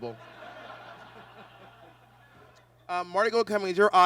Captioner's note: audience laughs